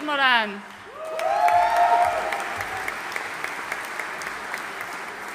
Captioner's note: audience cheering and applauding